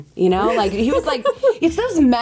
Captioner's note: laughs